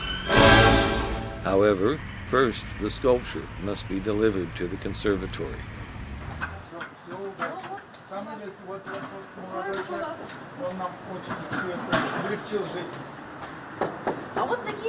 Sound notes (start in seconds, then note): 7.0 all chattering in the Russian language